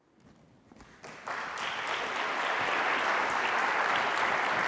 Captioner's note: applause